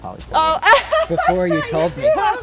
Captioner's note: laughs